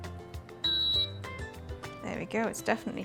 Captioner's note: ice cream maker beeps